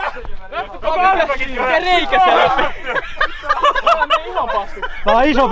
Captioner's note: laughing